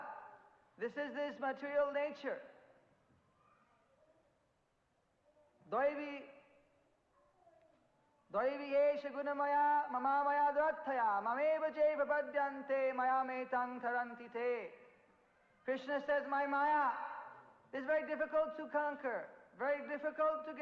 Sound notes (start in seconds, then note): 13.7 in Hindi